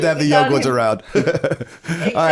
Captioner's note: laughter